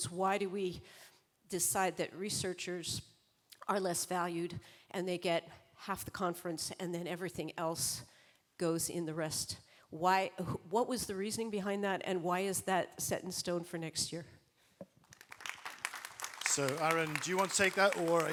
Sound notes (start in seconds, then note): 15.0 applause